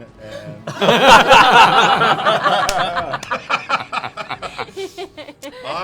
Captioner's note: laughter